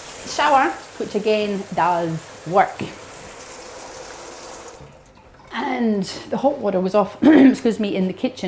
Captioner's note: clears throat